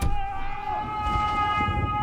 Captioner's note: shouting